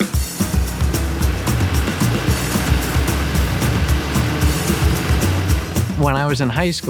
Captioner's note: drone